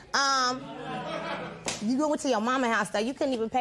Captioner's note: audience murmurs